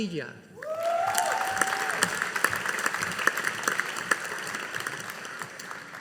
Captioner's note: audience applauding